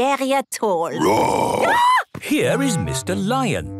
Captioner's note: roar, scream